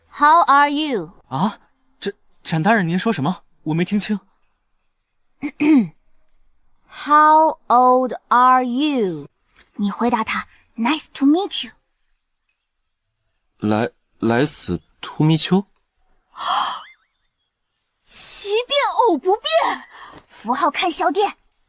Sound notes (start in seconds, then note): 5.4 cough